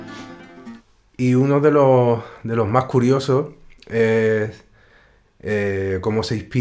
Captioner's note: musician speaking in Spanish